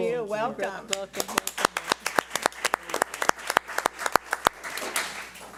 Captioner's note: audience applauds